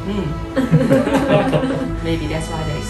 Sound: laughing

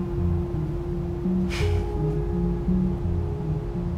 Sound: sighs

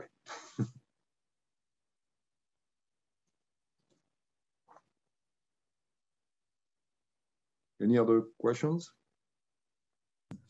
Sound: laugh

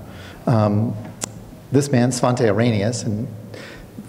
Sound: clicks tongue

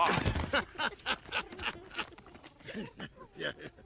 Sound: carl chuckles

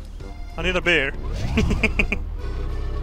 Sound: chuckles

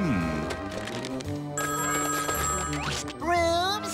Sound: ringing

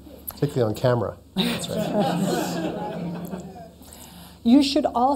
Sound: laughter

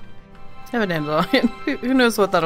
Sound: laughs

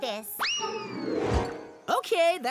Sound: ball whistles

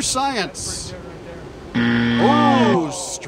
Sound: buzzer

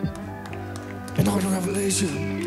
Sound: audience cheers

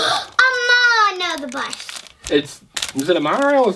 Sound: gasps

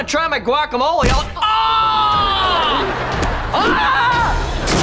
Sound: screaming

